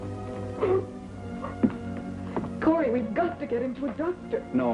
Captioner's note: faint sobbing